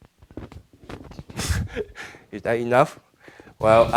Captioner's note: laughing